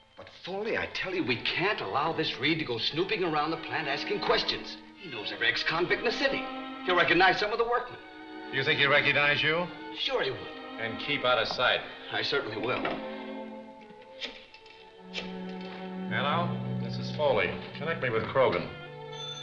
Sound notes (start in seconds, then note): 14.8 phone dial clicking